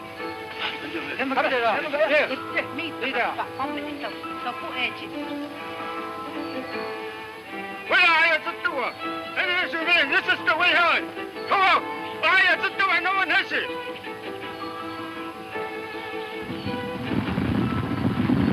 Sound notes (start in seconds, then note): 15.2 horses rumbling